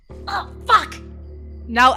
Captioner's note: grunts